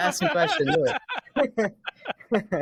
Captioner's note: laughing